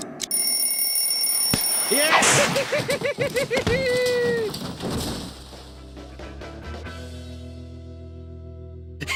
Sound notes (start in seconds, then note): 0.3 bell rings; 2.0 laughs